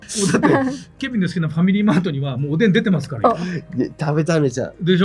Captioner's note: laughs